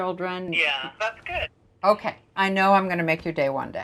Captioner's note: woman on phone